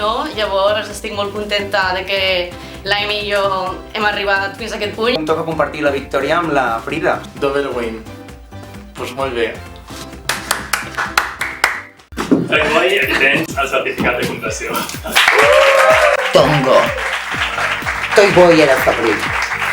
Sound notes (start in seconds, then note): 14.8 applause